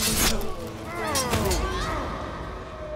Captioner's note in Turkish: Kılıç sesi